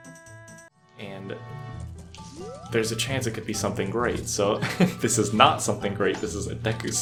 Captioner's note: laughs